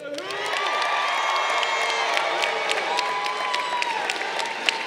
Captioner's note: crowd cheering